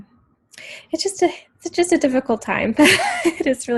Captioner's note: chuckles